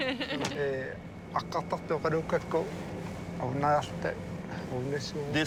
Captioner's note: in foreign language